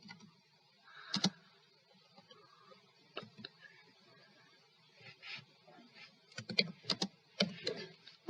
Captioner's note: typing